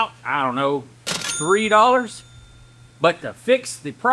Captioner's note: bell Ringing